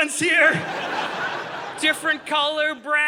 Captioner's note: audience laughing